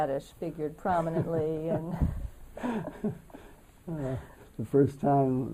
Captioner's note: laughter